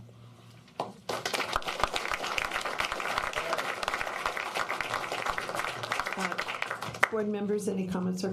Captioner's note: applause